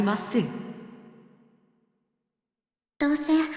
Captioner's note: silence